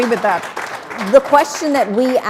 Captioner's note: applause